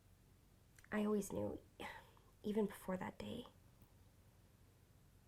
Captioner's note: sigh